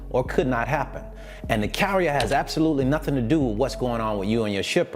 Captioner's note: clicking